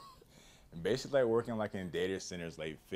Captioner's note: laughs